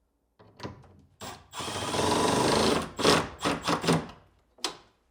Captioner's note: drill whirring